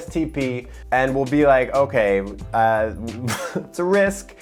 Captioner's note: laughs